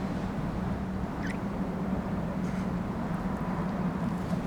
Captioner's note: kissing sound